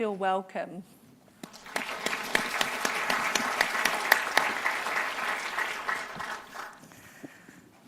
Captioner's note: applause